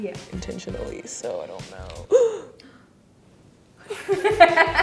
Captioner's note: gasps; laughing